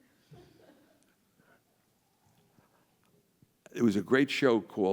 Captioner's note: audience chuckles